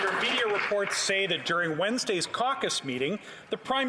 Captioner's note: some Applause